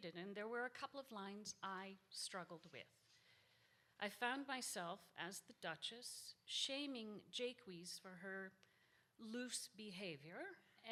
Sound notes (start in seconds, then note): none